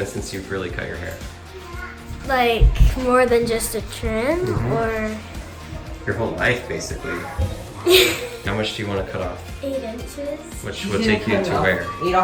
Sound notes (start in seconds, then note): 7.6 laughs